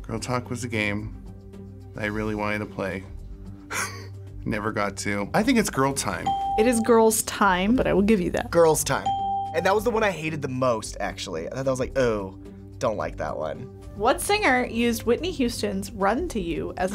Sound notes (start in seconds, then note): 3.7 laughs; 6.2 bell rings; 9.0 bell rings